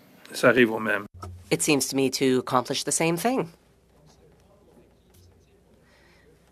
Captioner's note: speaking French